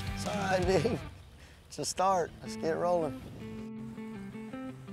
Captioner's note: laughs